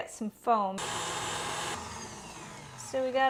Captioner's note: mixer grinding